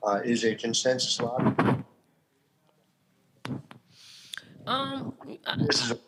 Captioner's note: static drowns out sound